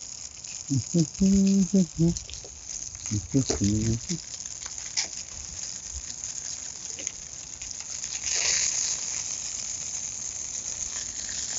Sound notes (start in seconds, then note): 0.7 humming